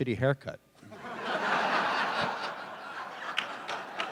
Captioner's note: laughter